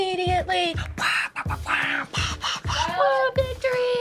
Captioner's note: imitates band playing